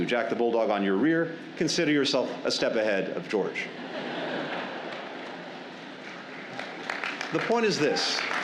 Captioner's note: laughter and applause